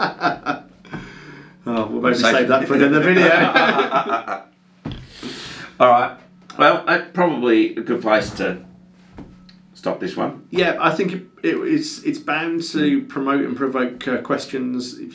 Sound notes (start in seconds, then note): 2.7 both men laughing